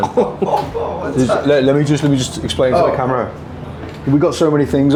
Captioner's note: stutters